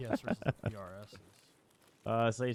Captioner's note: laughing